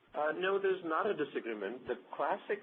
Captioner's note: voiceover